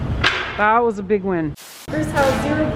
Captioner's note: static